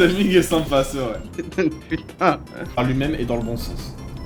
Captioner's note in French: rigole